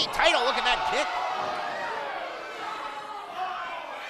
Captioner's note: crowd gasps